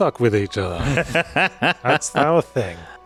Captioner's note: laughs